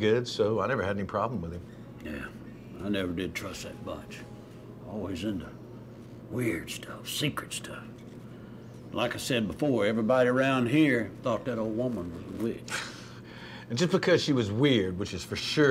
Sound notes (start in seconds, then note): none